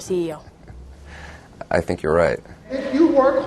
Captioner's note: laughing